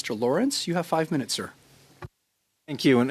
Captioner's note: speaking French